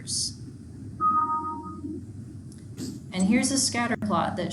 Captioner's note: notification bell chiming